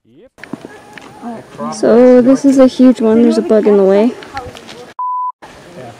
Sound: fly Buzzing

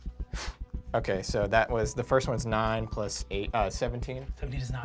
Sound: sigh

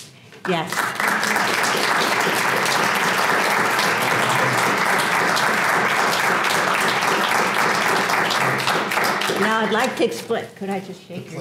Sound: applause

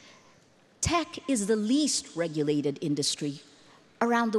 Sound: none

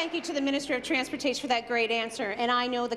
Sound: applause

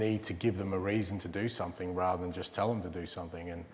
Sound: none

